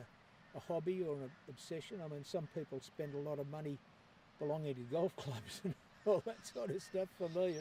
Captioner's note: laughs